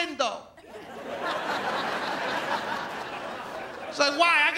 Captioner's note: audience laughs